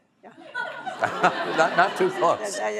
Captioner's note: laughter